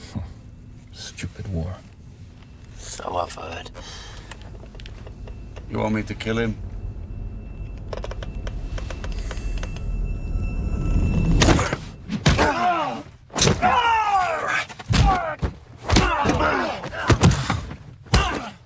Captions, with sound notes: - Hm, stupid war. - So I've heard. - You want me to kill him? (tense music) (Robert grunting) (all grunting) (punches thudding)